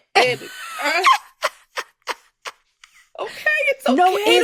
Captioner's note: laughter